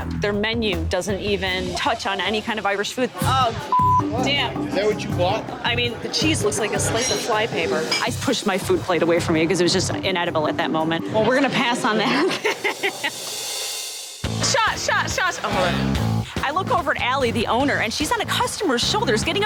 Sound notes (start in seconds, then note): 11.3 chuckling